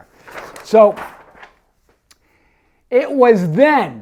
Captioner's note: paper rustles